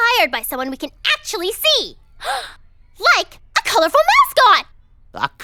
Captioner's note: gasps